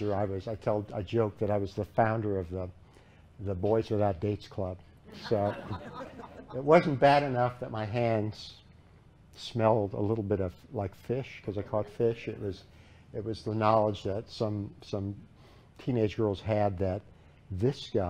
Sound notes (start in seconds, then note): 5.1 laughter